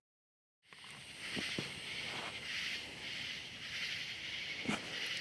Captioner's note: crickets chirping